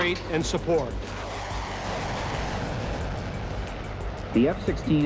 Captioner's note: Music/F-16s taking off